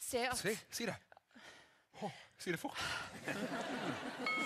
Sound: phew; ding

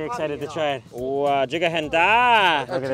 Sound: speaks in foreign language

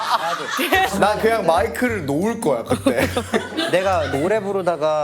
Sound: sob

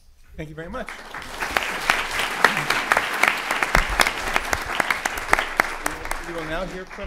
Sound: applause

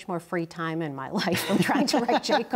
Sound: laughs

